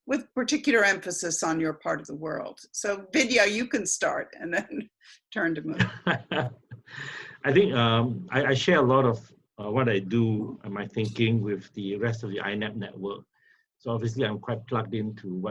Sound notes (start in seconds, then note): 5.7 laughs